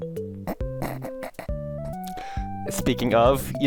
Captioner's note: holding back laughter